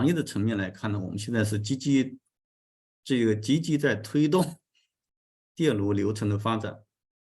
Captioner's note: continues to speak in Chinese